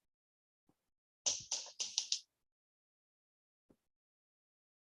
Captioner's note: sperm whale clicking noise